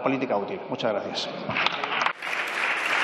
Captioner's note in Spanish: Aplausos